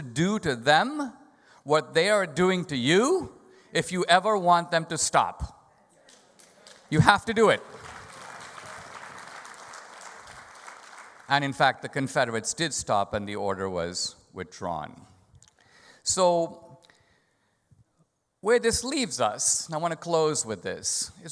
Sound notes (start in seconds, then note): 7.6 audience applause